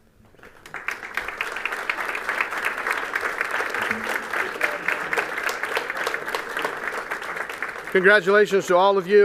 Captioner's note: applause